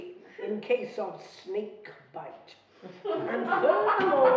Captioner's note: laughing